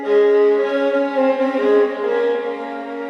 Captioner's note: none